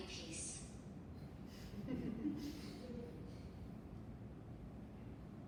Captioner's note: and audience laughs